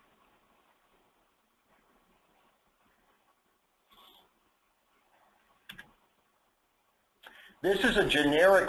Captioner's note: silence